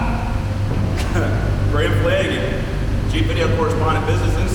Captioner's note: coughs